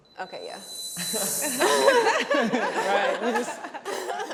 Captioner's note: everyone laughing